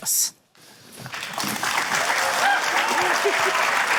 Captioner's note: cheering, applause